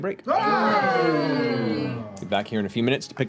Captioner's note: cheering